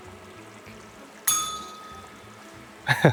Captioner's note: bell rings; laughs